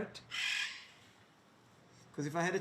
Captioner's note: parrot squawks